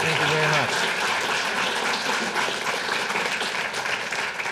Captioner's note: audience applauding